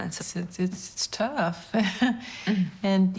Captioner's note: laughs